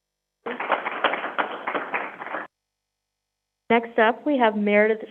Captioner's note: crowd applauding